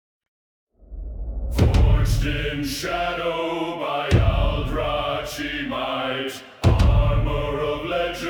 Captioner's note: chanting